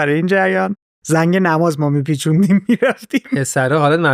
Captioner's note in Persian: خنده